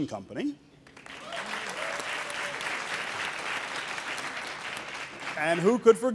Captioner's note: audience cheering and applauding